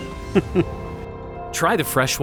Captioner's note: chuckles